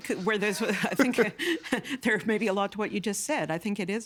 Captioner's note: laughing